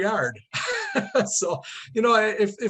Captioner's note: both laughing